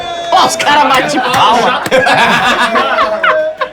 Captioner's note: risos